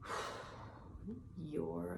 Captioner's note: exhales